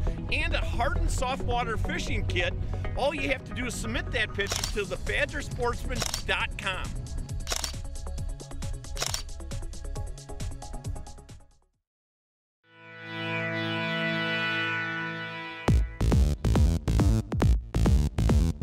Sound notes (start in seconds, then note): 7.1 camera shutters; 15.2 upbeat techno music